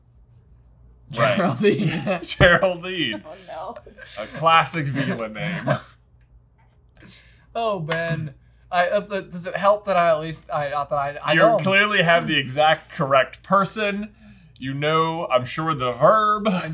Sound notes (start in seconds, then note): 1.2 laughs